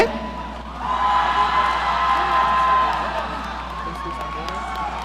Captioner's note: audience cheering